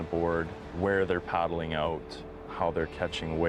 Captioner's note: voiceover